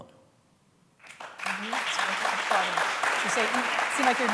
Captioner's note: applause